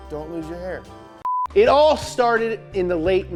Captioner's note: beep